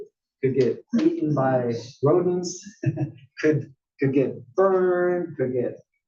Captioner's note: laugh